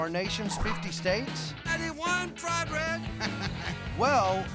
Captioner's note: laughter